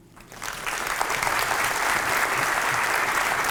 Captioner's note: applause